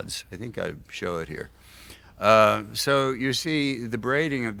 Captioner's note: none